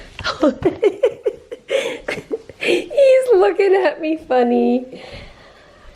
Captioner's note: laughing